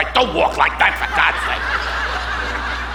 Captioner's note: audience laughing